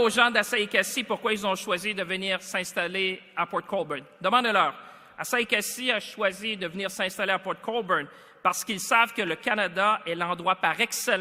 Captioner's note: speaks French